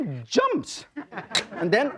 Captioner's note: crowd laughing